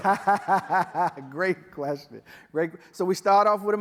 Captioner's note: laughs